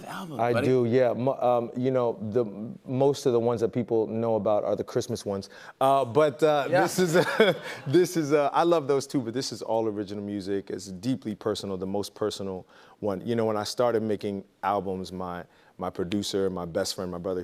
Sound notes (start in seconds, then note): 6.8 laughter